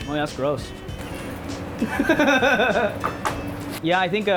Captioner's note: laughing